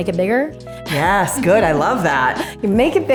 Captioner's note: laughs